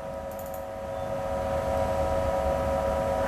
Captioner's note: clicking sound